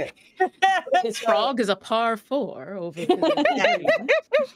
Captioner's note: laughs